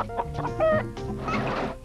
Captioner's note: chickens clucking